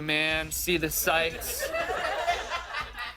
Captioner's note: laughter